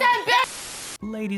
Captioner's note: Static